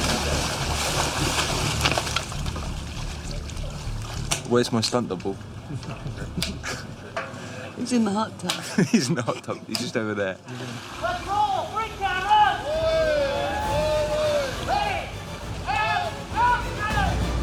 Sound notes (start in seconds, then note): 5.6 chuckling; 8.5 laughs